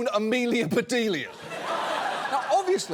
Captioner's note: laughter